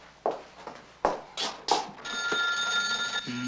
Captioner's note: telephone rings